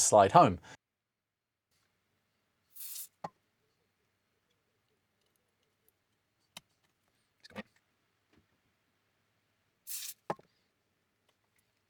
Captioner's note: silence